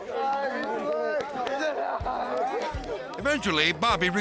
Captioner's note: skaters chattering